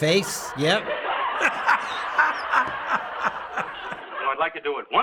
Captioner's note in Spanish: Riéndose